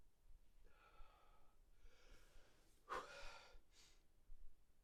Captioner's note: Sean sighing